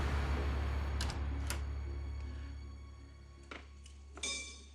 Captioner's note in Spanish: ruido al entrar